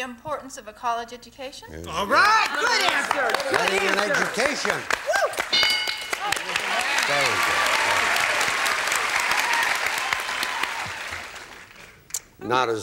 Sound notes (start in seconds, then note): 5.4 bell; 6.0 applause